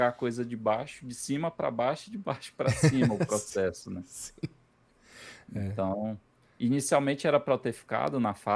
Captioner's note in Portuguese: risadas